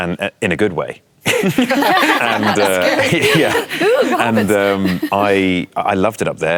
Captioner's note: laughter